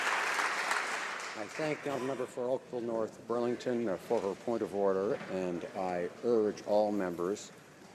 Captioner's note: some Applause